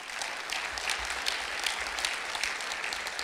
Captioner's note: clapping